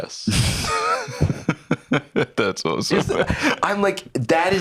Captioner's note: laughs